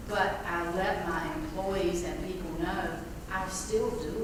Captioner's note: none